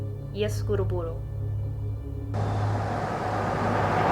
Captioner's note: speaks Russian